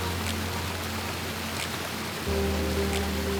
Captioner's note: running water